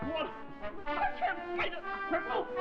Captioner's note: Dover yelps